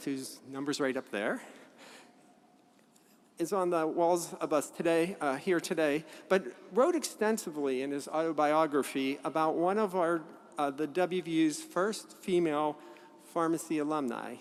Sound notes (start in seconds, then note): none